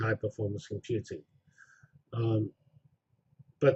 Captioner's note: pause